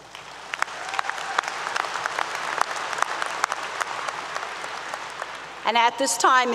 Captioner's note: applause 👏 👏